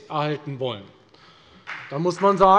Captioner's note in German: Beifall bei der FDP